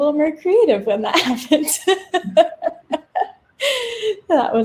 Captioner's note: laughs